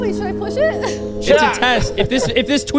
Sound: laughing

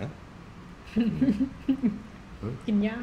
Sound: her unknown laugh

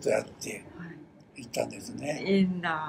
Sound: foreign language

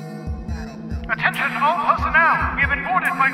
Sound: loudspeaker

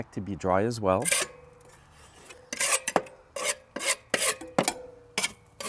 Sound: scraping sounds

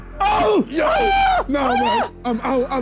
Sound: screaming

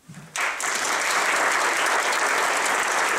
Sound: applause

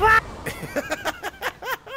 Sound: laugh

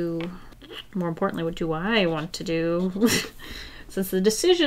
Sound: laughs

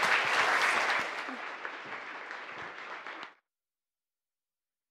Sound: applause

